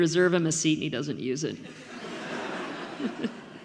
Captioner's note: audience laughing